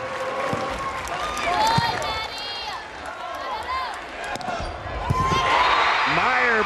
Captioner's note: crowd cheering